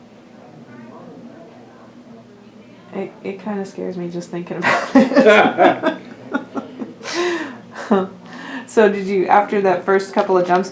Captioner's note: laughter